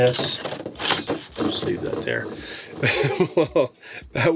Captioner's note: laughs